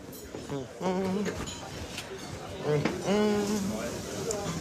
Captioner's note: humming